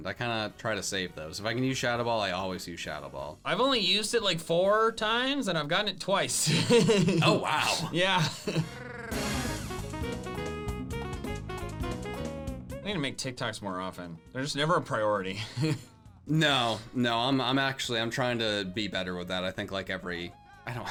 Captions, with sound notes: I kinda try to save those. if I can use Shadow Ball, I always use Shadow Ball. - I've only used it four times, and I've gotten it twice. (laughing) - Oh, wow. - Yeah. (upbeat music) We need to make TikToks more often. They're just never a priority. - No, no. I'm actually, I'm trying to be better with that. I think like every...